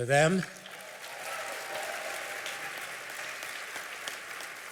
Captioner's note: applause